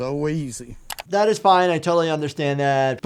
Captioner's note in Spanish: clic